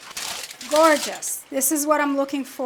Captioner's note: aluminum foil rustling